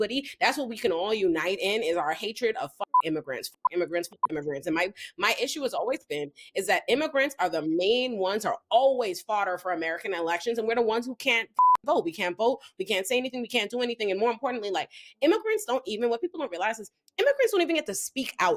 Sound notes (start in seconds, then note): 2.9 beep; 11.6 beep